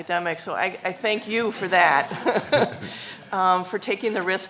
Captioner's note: laughs